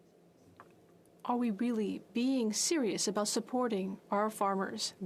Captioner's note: speaking French